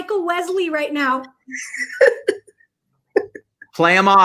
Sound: laughing

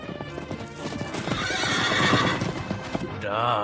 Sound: SFX: horse galloping to a halt; SFX: horse neighing

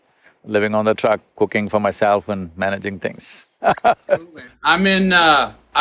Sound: laughs

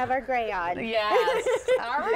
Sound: laughter

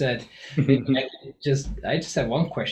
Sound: laughs

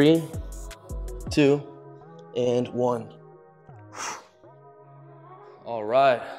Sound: exhales loudly

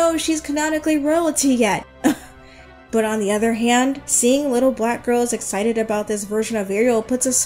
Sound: laughs

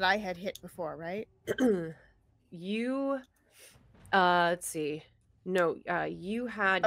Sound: clears throat

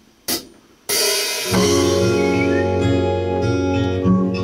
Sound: whistling sound

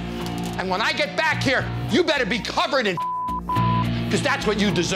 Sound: beep

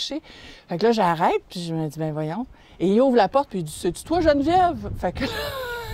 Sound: laugh

